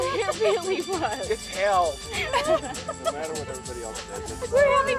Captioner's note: laughter